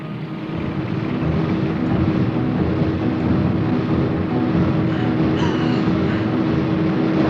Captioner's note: car engine